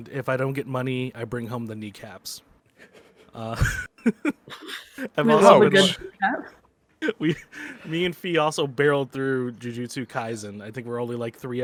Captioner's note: laughs